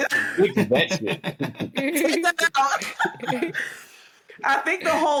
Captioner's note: laughter